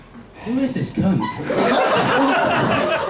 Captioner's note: audience laughs